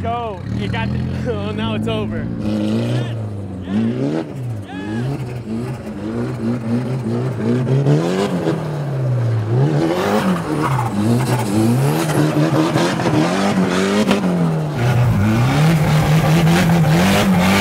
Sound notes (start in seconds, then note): 2.5 engine revving